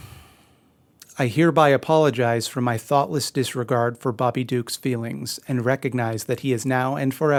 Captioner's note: Mildred, sighs